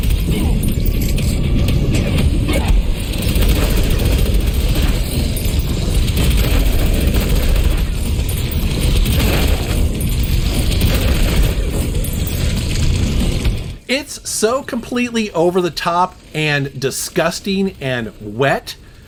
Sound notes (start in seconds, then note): 0.0 gun blasting; 0.0 tense dramatic music; 1.8 monsters groaning; 3.1 gun blasting